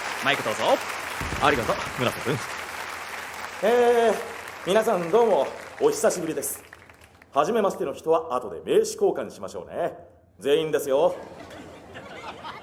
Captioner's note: the guests laugh